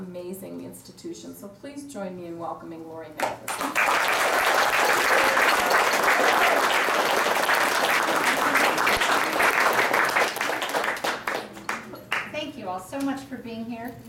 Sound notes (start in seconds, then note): 3.2 clapping